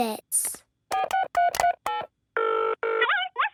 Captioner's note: dials phone; on phone